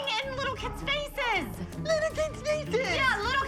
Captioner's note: mocking